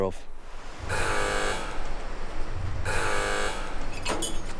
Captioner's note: machinery buzzing